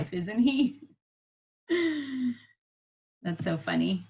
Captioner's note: laughing